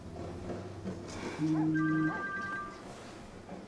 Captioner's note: phone ringing